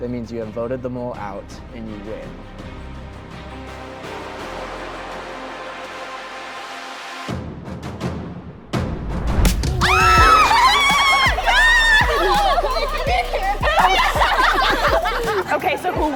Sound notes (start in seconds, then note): 2.7 dramatic music; 9.7 girls cheering; 12.9 laughter